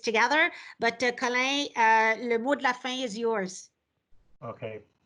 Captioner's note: speaks foreign language